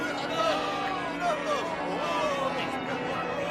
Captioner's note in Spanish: campanas